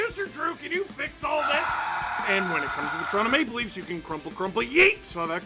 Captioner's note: screaming